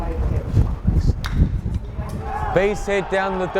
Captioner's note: bat thwacks